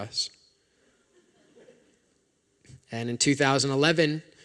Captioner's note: laughter